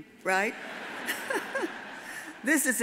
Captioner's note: all laugh